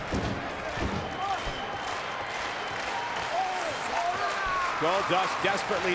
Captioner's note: crowd clapping rhythmically